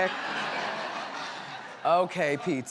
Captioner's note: audience laughs